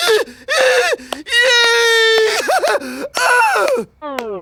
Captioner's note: Goon exclaiming; laughing